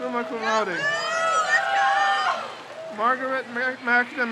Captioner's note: crowd cheers